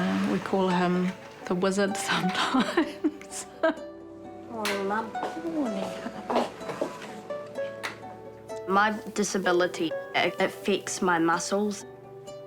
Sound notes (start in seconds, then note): 2.3 chuckles; 7.3 footsteps approach